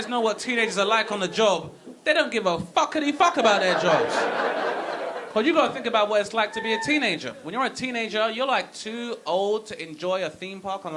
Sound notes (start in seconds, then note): 3.4 audience laughing